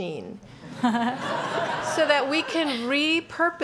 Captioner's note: laughing